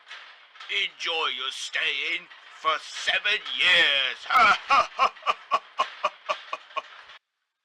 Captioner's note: laughs